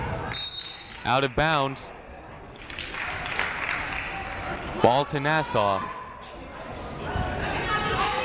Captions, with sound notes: (whistle blows) Out of bounds. Ball to Nassau.